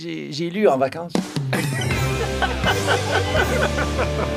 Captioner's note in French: rires